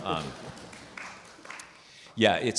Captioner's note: participant clapping